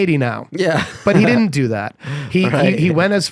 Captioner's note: laughs